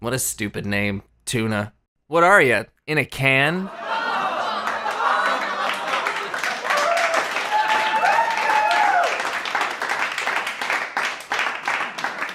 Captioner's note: audience laughter